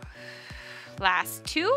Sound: exhales

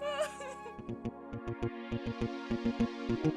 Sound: sobbing

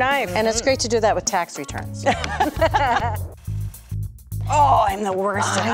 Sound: laughs

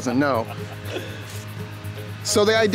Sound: laughing

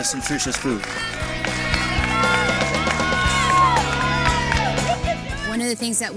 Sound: clapping, cheering

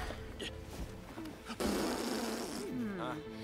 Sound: blows raspberry

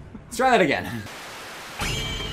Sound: Static; stylized sword murder sound

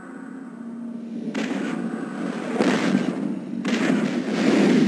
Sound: digitized landslide sounds

